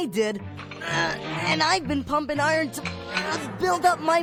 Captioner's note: straining